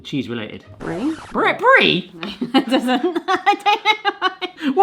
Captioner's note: laughter